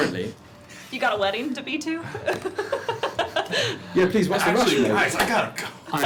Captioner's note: laughs